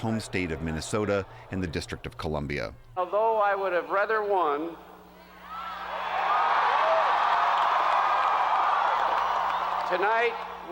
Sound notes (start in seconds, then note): 5.4 cheering and applause